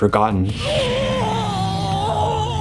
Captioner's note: very normal scream